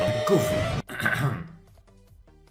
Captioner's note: cough